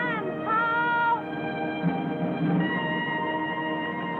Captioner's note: speaking chinese